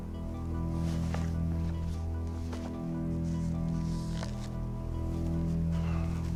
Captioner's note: papers rustling; footsteps thumping